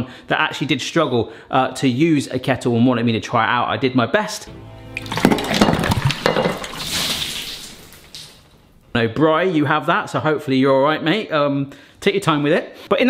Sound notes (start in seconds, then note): 4.9 water sloshing; 5.0 kettle clattering